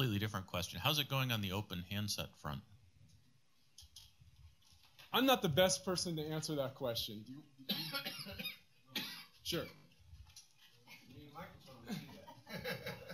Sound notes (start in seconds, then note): 7.6 question drowned out by man coughing; 11.8 laughter